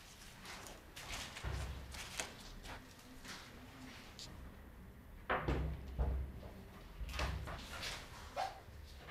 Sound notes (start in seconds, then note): 0.0 rustling